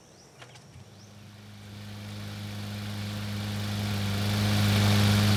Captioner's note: mower roaring